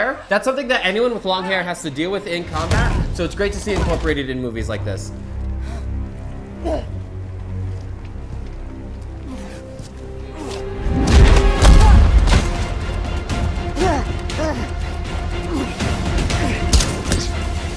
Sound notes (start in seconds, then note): 6.6 Black Widow grunting; 11.5 body thudding; 13.7 Black Widow grunting